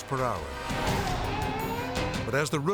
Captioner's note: motorcycle revs